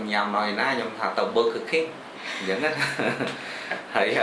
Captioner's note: laughs